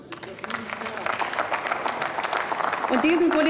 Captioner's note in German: Applaus